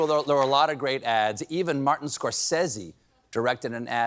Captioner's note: cheering